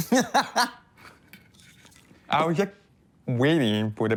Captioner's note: person laughing